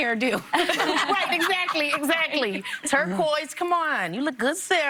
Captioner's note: laughter